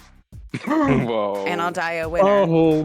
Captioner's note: gasps